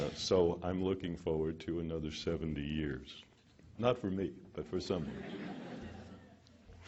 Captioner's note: laughter